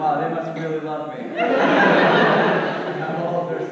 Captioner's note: audience laughs